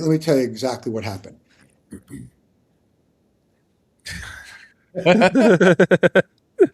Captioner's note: laughing